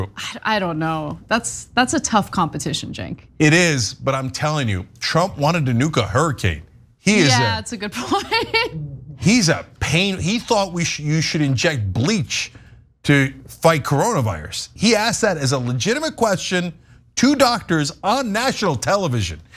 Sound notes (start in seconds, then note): 8.0 laugh